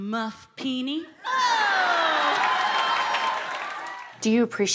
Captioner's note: audience cheers